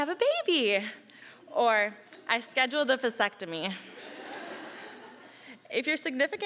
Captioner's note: audience laughing